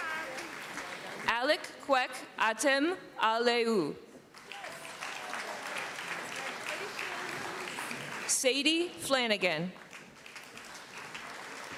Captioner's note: applause